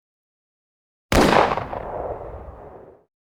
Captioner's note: gunshot